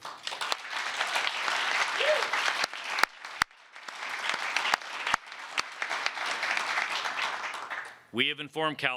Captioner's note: applause